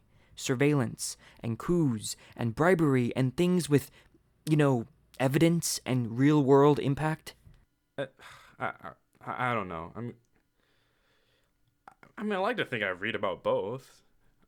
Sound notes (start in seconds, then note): 8.0 sighs